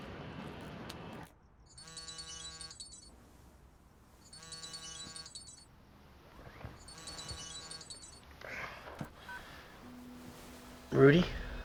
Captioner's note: phone Ringing